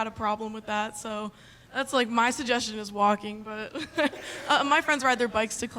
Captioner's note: laughs